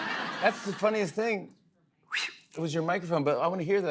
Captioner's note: imitates whoosh